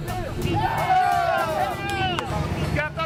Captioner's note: cheering